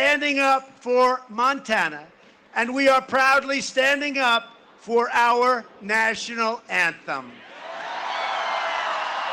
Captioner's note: cheering and applause